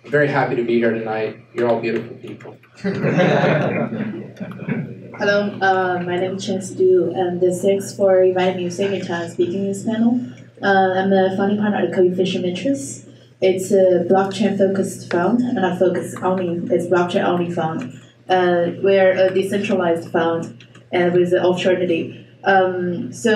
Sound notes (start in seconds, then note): 2.8 laughing